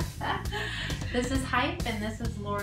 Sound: laughs

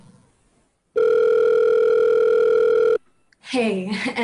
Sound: phone ringing

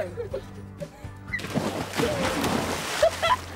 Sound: giggle

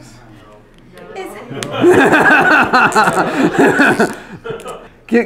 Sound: everyone laughs

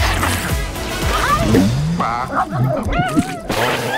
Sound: gulp

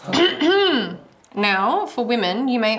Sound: teacher clearing throat

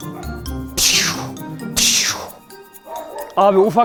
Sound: meaning, gunshot sound made with the mouth

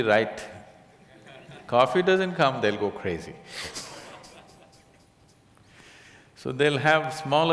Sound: laughs

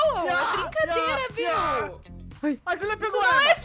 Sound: screaming on the background

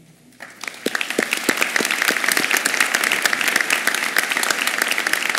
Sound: applause

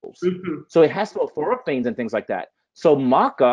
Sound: voice muffled

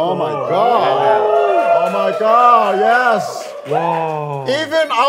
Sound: crowds are cheering

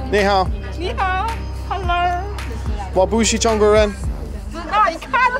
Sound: speaking foreign language

